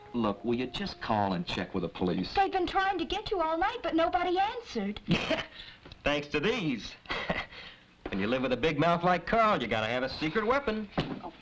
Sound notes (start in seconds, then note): 5.1 laughs